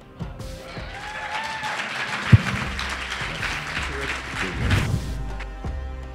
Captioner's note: cheers and applause